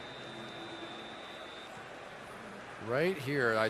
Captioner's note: whistle